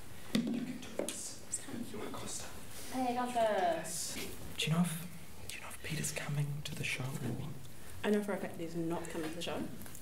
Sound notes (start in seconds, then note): 2.9 whispering